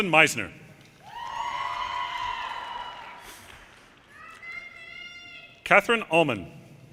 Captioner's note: audience cheers and applause